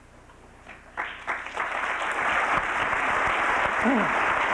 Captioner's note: applause